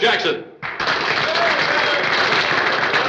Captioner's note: people applaud and cheer